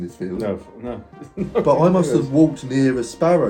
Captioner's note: laughs